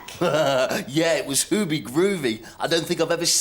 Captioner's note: laughs